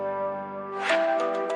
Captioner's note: gentle music; air whooshing